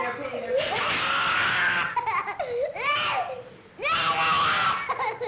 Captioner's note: crying